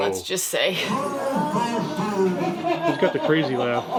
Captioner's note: toy laughing